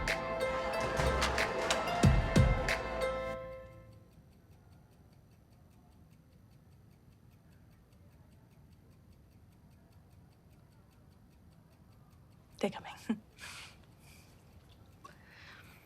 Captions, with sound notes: (CLOCK TICKS SOFTLY) - They're coming. (CHUCKLES SHORTLY)